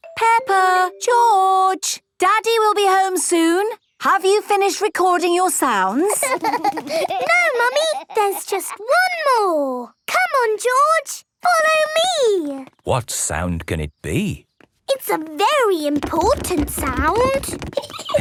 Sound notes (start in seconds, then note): 6.0 laughter; 17.7 giggling